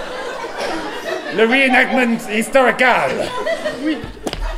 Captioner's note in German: Französisch